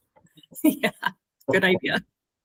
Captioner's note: laughs